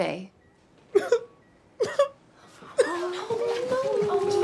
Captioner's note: cries